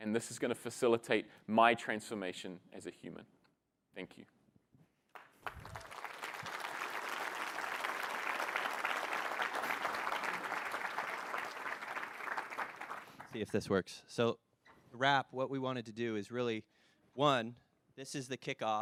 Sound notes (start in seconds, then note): 5.1 applause